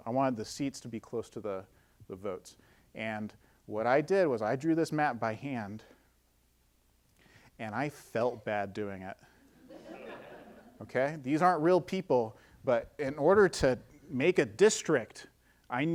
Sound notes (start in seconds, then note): 9.5 audience laughing